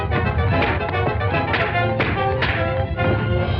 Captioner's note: punches thudding